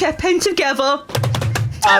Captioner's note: drums on table